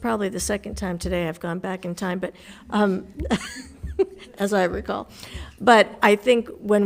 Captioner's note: laughs